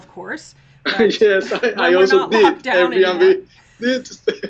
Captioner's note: laughs